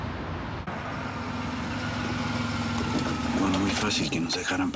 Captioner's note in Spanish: Ruidos del auto